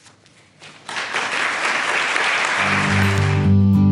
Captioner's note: applause